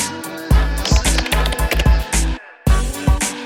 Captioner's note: upbeat music; keyboard clicking; upbeat music